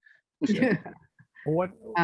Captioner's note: laughter